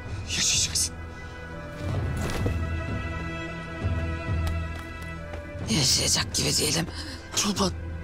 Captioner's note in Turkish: Takırtı Sesleri